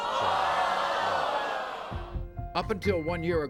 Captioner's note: audience groans